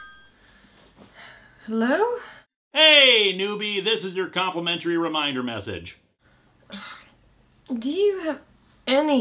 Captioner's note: phone ringing